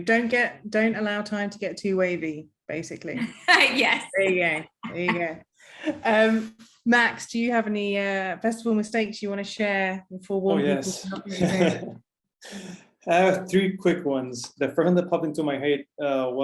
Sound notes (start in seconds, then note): 4.7 laughing; 13.1 chuckling